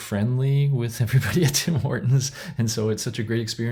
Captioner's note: laughs